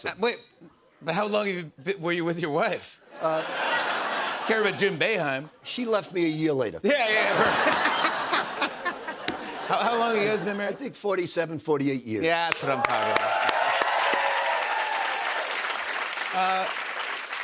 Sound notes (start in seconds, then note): 14.0 cheers and applause